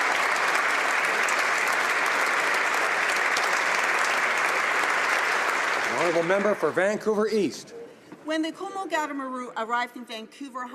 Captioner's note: applause